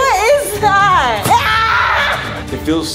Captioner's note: screams